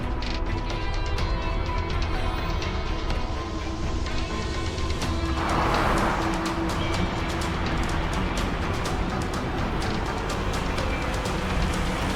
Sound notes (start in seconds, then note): 5.4 tires whirring